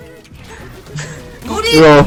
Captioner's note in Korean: 한숨